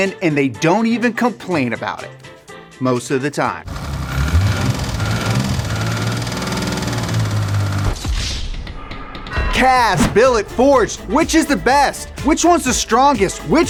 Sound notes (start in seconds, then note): 3.6 car engine whirring